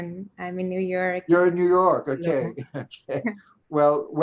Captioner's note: chuckling